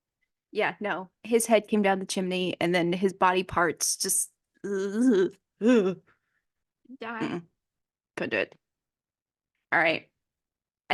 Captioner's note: sounds of disgust